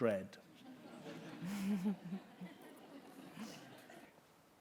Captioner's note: laughter